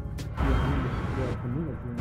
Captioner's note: scary music; voice distorted